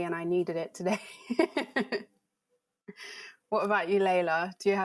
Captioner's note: laughs